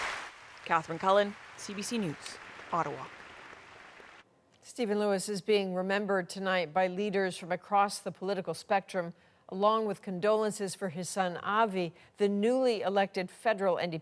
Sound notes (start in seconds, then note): 2.6 applause